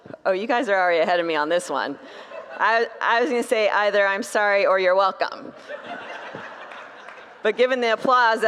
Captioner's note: congregants laugh; congregants laugh